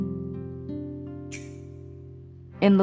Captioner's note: coins clinking